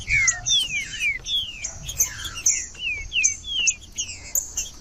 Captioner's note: trinca ferro cantando